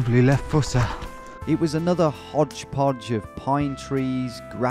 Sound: voiceover

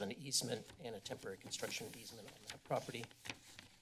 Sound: pages flip

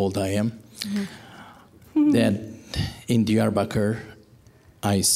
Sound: giggling

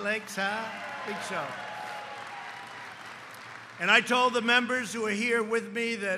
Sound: applause

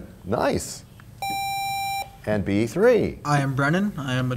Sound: sound of a buzzer

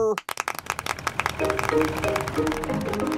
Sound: clapping

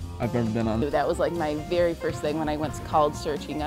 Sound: voiceover

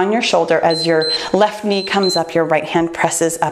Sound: timer beeps

